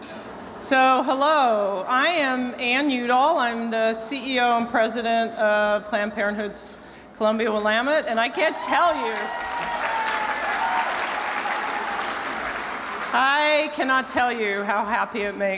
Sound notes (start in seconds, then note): 10.7 cheers and applause